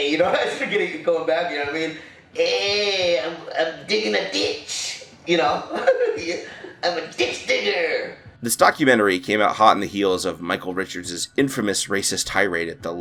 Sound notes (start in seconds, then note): 2.2 imitating mexican accent; 5.7 chuckles